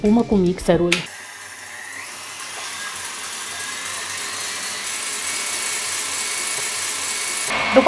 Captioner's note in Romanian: sunetul mixerului